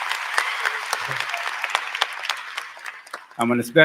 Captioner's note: applause